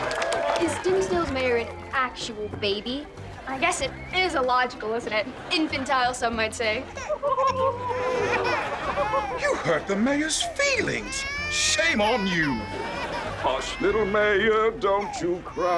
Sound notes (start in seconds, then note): 6.8 baby crying; 7.0 girls chuckling